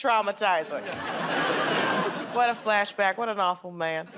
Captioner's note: laughter